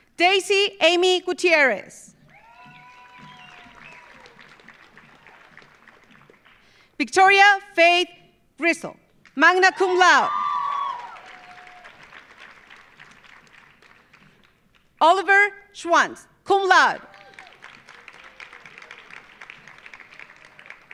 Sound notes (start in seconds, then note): 2.2 audience cheering; 2.2 audience applauding; 9.6 audience cheering; 10.3 audience applauding; 17.0 audience applauding